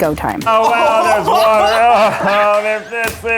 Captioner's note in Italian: risate